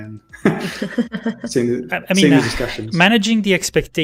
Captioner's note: laughter